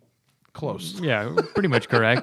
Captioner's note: laughter